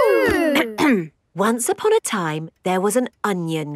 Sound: clears throat

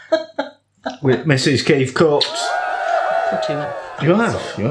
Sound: cheerin

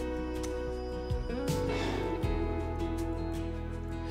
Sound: sighs

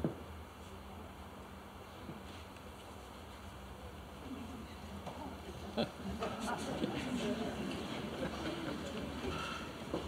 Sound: laughter

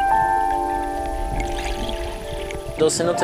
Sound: water gurgling

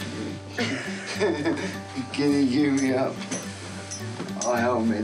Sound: laughs; chuckles

